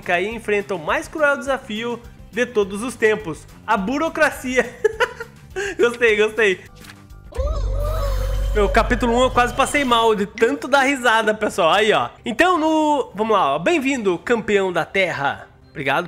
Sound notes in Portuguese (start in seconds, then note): 4.6 risos